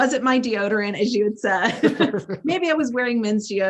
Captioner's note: laugh